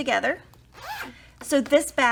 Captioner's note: zipper vibrates